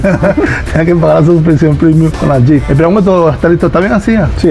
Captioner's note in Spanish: risas